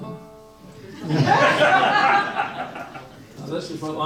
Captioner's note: audience laughs